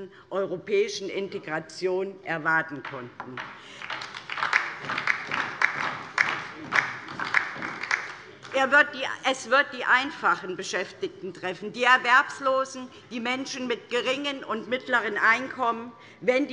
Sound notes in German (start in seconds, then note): 3.2 Beifall DIE LINKE